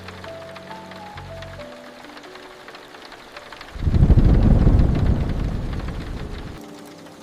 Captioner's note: rain running down the angled window